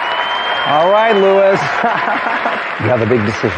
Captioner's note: laughs